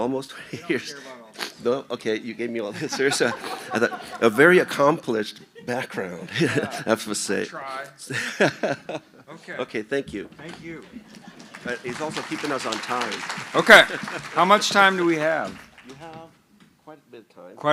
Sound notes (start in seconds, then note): 2.7 laughter; 8.1 laughs; 13.1 applause